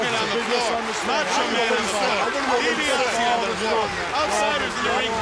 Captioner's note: wrestlers arguing